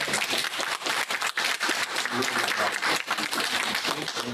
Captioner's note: applause